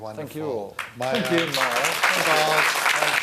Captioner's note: applause